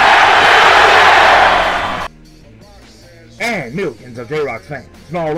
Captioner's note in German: Beifall